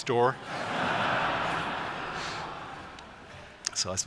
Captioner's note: laughter